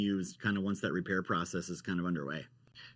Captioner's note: none